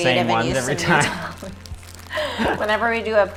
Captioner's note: laughs